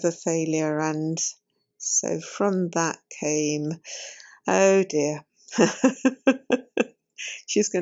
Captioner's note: laughs